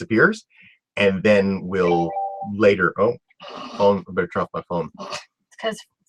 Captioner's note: phone rings